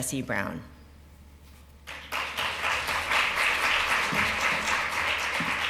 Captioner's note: applause